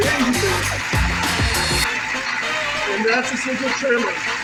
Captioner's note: engine idling